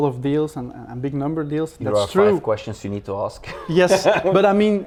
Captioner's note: laughs